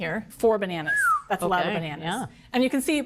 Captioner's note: whistles